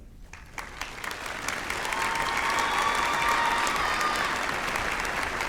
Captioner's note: applause and cheering